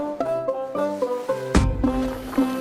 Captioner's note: thud